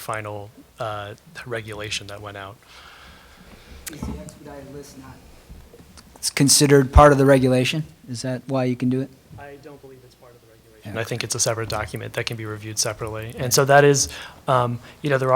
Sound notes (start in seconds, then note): 5.7 off-mic